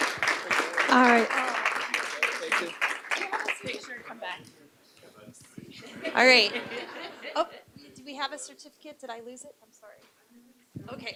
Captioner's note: applause